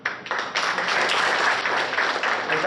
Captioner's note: applause